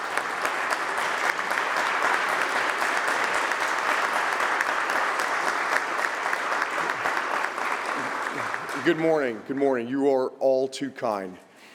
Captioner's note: applause